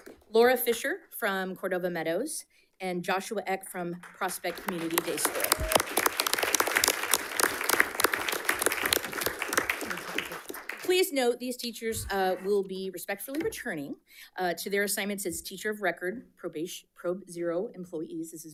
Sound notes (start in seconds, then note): 5.9 audience applauds